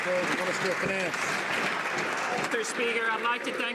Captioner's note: some laughter and applause